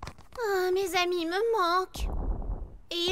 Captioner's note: loud rumbling coming from above